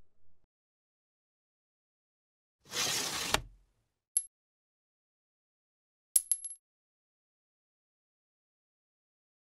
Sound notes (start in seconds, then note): 2.7 scraping sound; 6.2 clinking